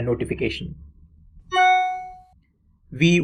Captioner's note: notification sound